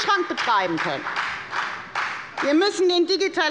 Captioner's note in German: Heiterkeit und Beifall bei der FDP